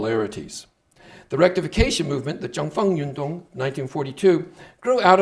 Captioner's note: speaking Chinese